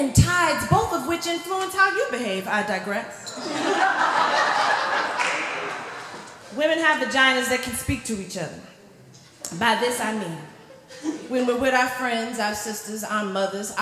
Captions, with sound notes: and tides, both of which influence how you behave. I digress. [Laughter] Women have vaginas that can speak to each other. By this, I mean When we're with our friends, our sisters, our mothers